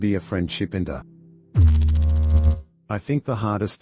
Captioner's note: electrical noise